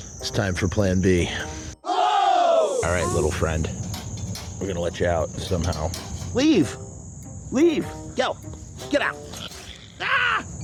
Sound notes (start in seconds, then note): 1.8 crowd gasping in shock; 2.6 Possum hissing; 3.8 cage clanging; 9.1 vicious Possum growl